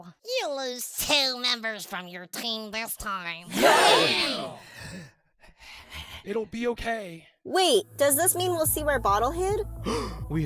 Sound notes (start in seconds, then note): 3.5 cheers; 4.3 anxious breathing; 9.8 gasp